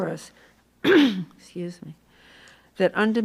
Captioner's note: coughs